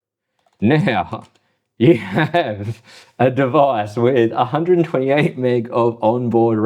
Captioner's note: laughing